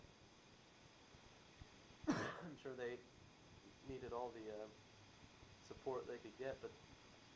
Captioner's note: coughs